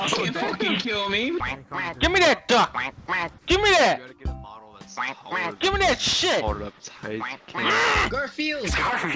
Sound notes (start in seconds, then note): 1.3 quack quack; 4.9 quack quack; 7.1 quack quack